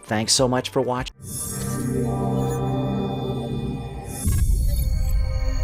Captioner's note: futuristic sounds